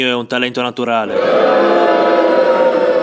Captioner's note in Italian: Folla Urla